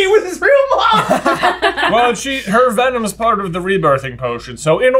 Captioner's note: laughter